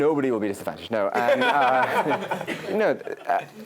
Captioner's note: laugh